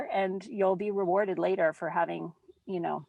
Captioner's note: none